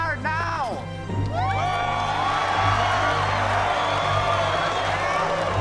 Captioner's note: cheers and applause